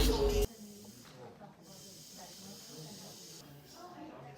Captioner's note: dentist drill noises in distance